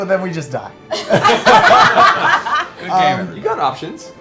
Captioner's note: laughter